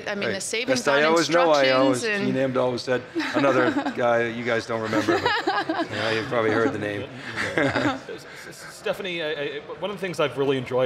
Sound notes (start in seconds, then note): 7.4 laughs